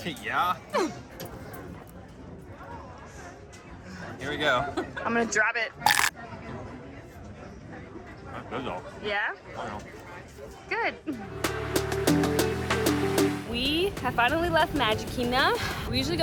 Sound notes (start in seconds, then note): 5.8 crunching; 11.4 upbeat music